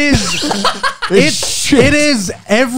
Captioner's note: laughs